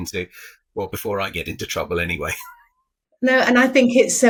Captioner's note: chuckling